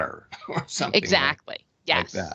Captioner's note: laughing